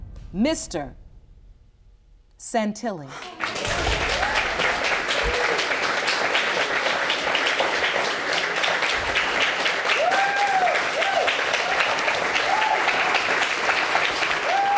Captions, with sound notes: ...Mr. Santilli. (AUDIENCE APPLAUDING) (AUDIENCE CHEERS)